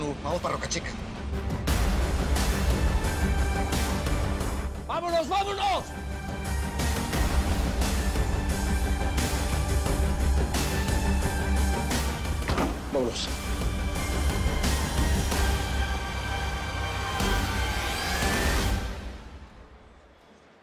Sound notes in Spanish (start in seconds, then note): 12.4 Portazo